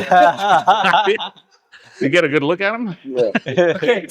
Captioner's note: laughing